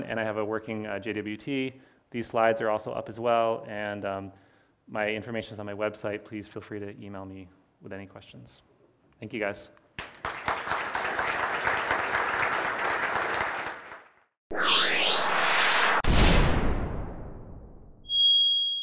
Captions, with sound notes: and I have a working JWT. These slides are also up, as well. And my information's on my website. Please feel free to email me with any questions. Thank you, guys. (applause) (swishing noises)